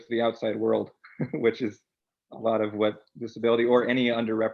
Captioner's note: chuckles